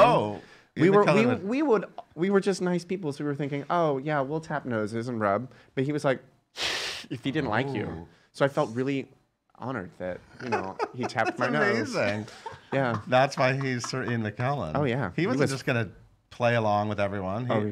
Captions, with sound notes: - Oh! - We would, we were just nice people, so we were thinking, "Oh, yeah. "We'll tap noses and rub." But he was like (hissing) if he didn't like you. So I felt really honored that he tapped my nose. - (laughs) That's amazing. (laughing) That's why he's Sir Ian McKellen. - Oh yeah. - He wasn't just gonna play along with everyone.